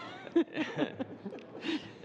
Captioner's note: laughter